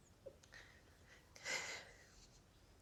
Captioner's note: Carmen sobs